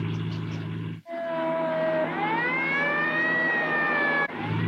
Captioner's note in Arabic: صافرة الإنذار تدوي